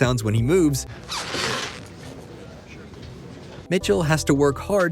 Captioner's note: squeak